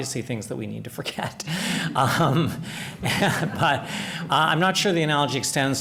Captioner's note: laughter